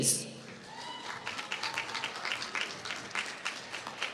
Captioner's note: applause